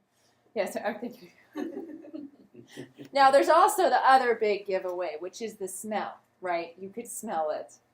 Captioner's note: laughter